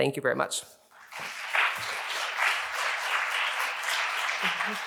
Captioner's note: audience applauding